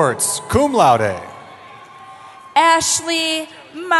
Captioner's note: cheering